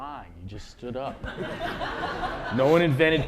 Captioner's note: laughter